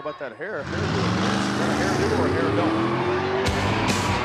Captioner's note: engine roaring; rock music